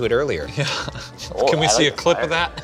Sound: laughs

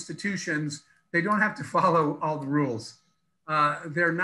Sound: laughs

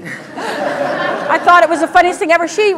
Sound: laugher

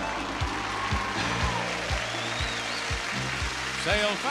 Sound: audience applauding

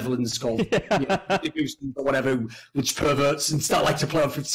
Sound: laughs

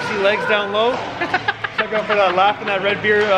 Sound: laughs

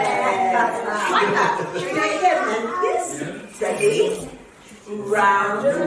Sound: laughs

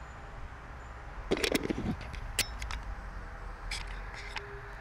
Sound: camera shuffling

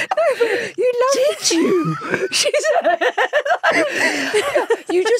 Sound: both laughing

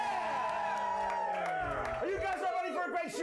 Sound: audience cheering

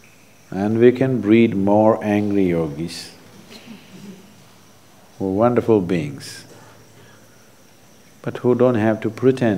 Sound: few laugh

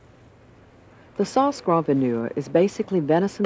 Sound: voiceover

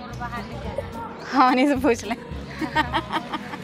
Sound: laughs

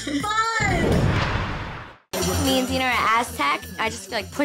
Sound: whooshing

